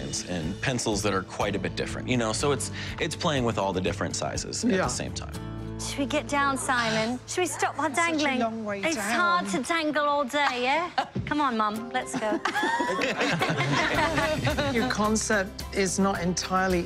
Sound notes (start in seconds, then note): 12.0 laughter